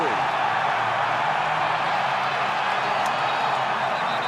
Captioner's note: cheering